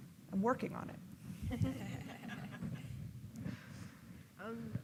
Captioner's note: laughing